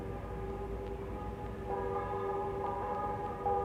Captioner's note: bells ring out